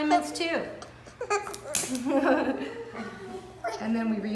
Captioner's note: laughing